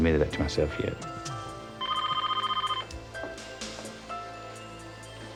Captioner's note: telephone ringing